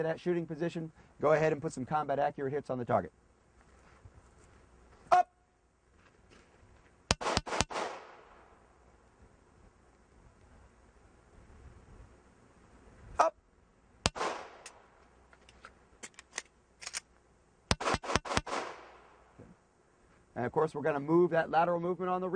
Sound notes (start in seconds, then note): 7.1 three shots fired; 14.6 five shots fired